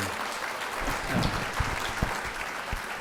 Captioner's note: audience applauds